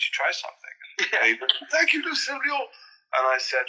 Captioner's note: in Dumbledore's voice